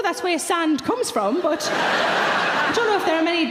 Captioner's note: audience laughing